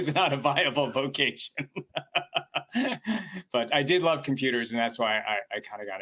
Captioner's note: chuckles